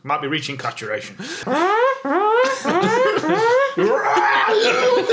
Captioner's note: makes a pretty good siren noise